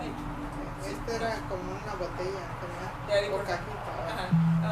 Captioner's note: in Spanish